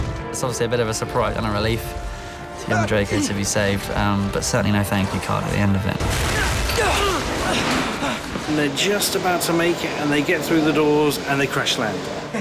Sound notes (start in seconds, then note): 6.0 grunting